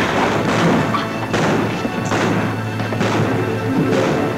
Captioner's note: gun bangs; guns bang